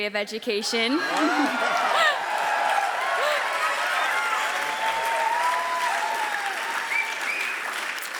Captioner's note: audience cheers louder